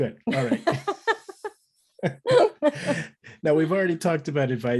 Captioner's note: laughing